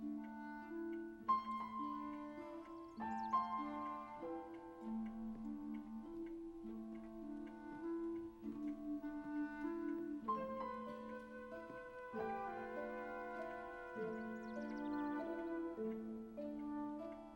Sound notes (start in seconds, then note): 0.9 clock ticking